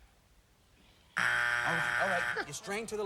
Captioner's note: buzzer